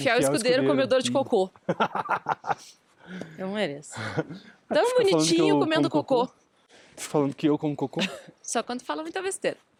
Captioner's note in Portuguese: risadas